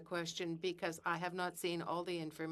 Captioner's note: speaking in French